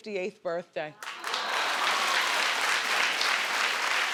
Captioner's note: crowd claps